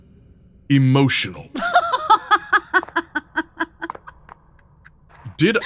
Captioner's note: bursts into laughter